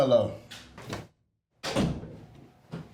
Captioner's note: door closes